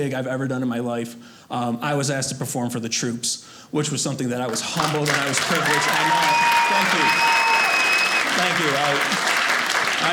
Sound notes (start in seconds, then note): 7.3 audience cheers